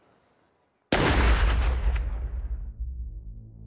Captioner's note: gunshot bangs